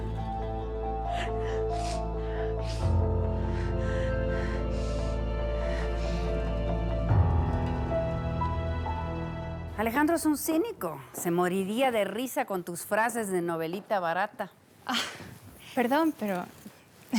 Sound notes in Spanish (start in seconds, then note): 0.1 Sollozos